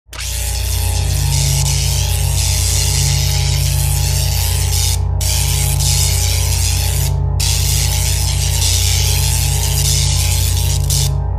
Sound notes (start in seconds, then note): 0.1 electricity crackles over a deep hum